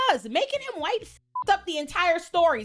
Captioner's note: beep